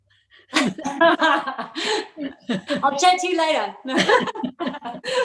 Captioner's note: Gelach